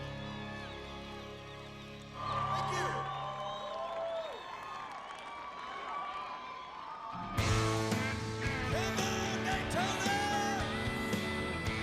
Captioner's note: cheers and applause